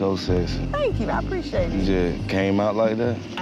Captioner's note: crickets chirping